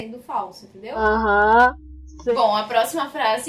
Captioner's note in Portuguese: menina falando em tom debochado